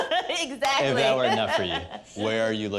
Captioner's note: laughs